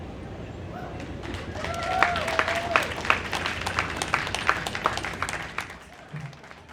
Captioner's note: applause